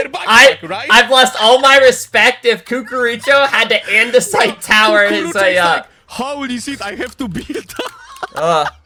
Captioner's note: laughter